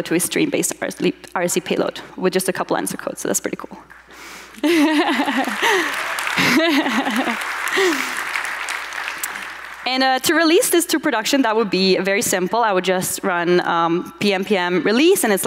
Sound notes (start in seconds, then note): 4.6 audience applauds